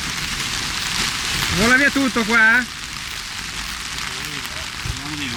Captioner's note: heavy rain